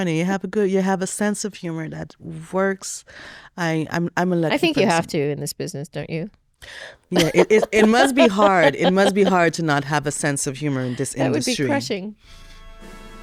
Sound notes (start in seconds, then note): 7.1 laughs